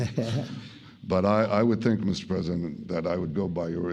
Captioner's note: laughter